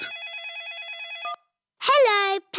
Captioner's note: phone rings